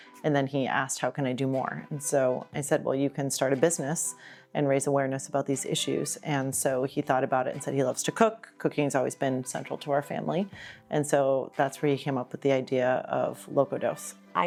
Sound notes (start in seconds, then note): none